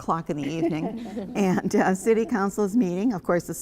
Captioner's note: laughter